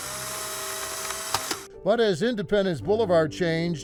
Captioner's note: camera snapping